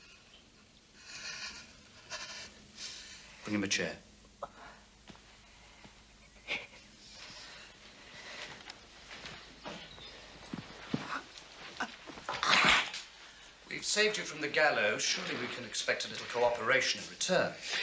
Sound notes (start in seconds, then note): 11.3 gasps